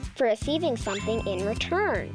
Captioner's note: check mark rings